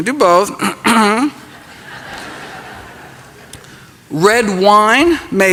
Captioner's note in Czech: Odkašlání, diváci se smějí